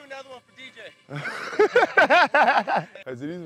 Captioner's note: laughing